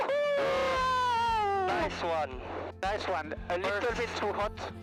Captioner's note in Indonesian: berteriak